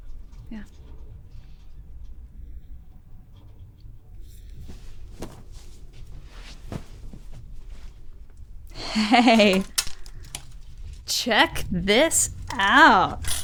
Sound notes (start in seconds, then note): 5.6 clothes rustling; 8.7 laughs